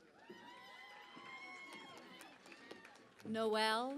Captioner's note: cheering and Applause